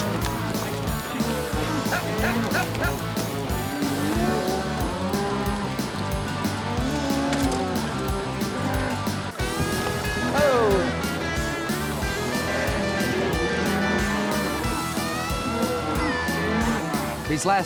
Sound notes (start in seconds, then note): 1.6 cowboys shouting